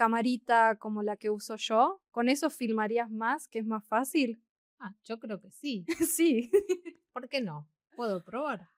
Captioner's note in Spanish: risas